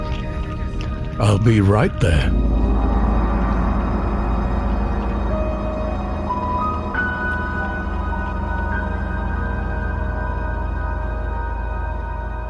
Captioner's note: happily; outro music